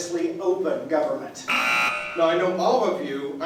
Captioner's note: buzzer